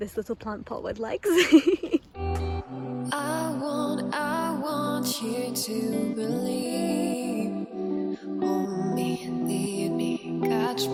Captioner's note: laughs